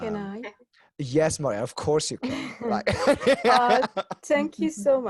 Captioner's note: laughs